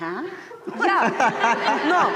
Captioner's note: laughter